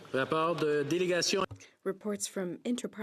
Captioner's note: speaking in French